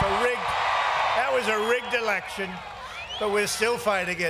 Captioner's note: cheers and applause